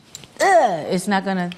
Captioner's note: audibly frustrated